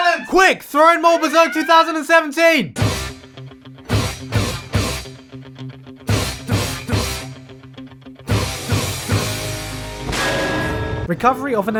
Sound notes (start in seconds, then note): 0.2 klaxon; 2.7 Guts grunts to the tune of Eye of the Tiger